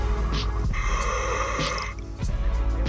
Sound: breathing

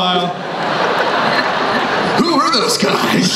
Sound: crowd laughs

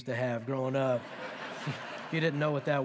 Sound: laughter

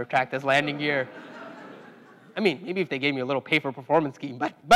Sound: laugh

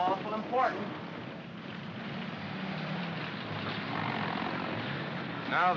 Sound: vehicles rumbling

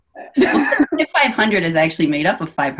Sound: chuckles

